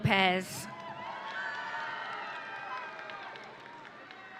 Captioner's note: audience cheering